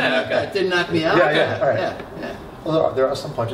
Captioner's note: laughter